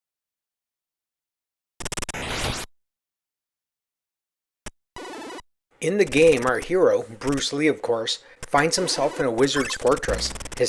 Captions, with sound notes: [c64 martial arts sound effects] In the game, our hero, Bruce Lee, of course, finds himself in a wizard’s fortress.